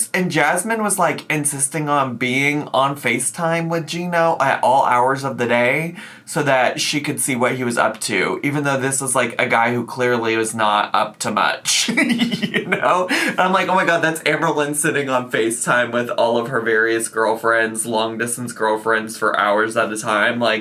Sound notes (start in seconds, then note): 11.8 laughing